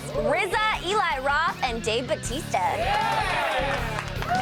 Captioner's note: cheers and applause